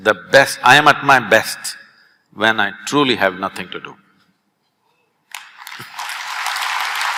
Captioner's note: applause